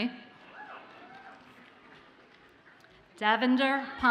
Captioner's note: audience cheers and applauds faintly